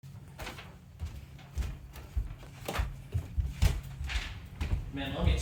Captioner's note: footsteps thumping